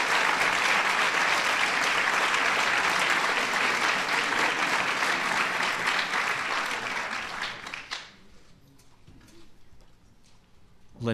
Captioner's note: applause